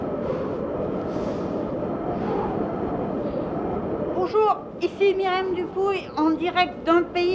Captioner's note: wind